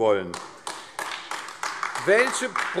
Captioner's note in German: Beifall AfD